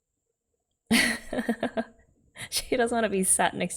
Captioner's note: laughs